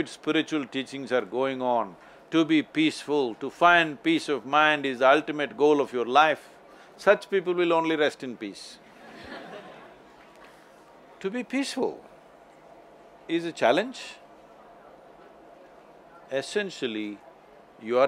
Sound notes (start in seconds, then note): 8.8 few laugh